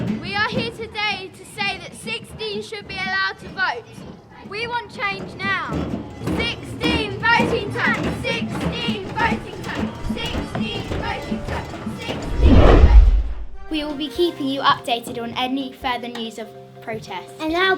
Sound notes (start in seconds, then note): 0.0 sound of chanting; 6.7 chanting